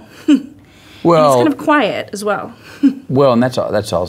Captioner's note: laughs; laughs